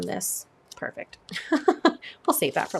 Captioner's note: laughs